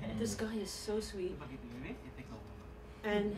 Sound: non-english speech

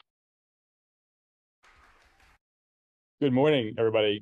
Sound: audience applauding

